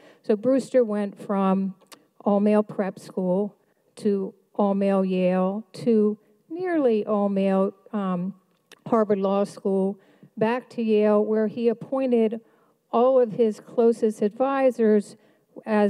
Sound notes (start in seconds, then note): none